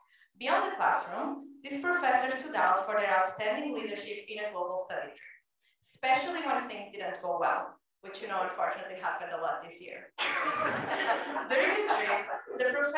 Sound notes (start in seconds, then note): 10.2 laugh